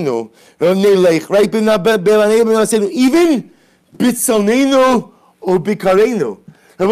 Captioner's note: Hebrew